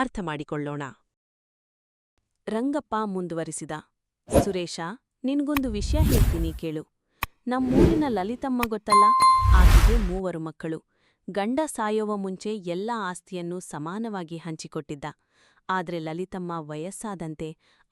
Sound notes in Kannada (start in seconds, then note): 8.9 ಗಂಟೆ